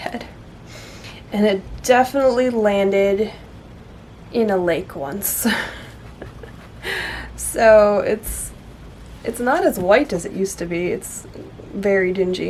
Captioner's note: laughs